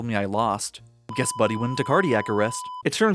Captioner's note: flatlining beep